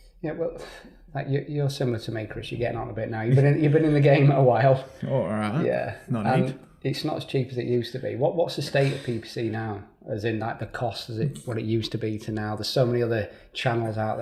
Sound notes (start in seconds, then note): 3.9 chuckling